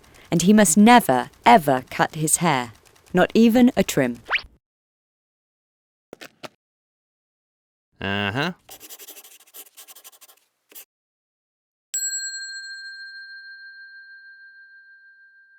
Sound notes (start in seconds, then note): 8.6 quill scratching; 12.0 bell dings